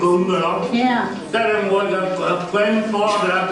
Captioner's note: speaking Hoisan-wa